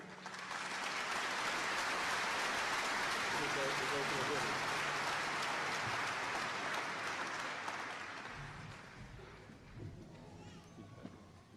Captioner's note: applause